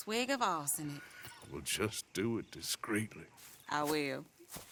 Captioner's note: laughs